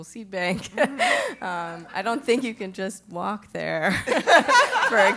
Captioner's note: laugh